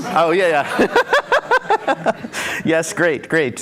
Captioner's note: laughter